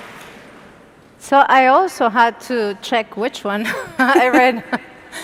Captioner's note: laugh